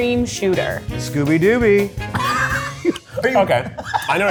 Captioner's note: laughs